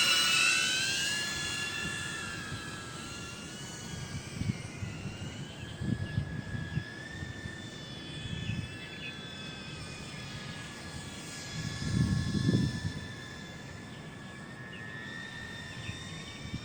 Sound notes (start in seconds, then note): 0.0 flight Machine Sound; 3.3 flight Machine Sound; 10.5 sound of flying machine